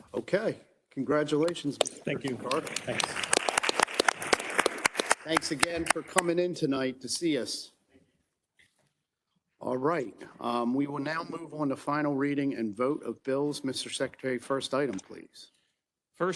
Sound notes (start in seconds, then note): 4.1 group clapping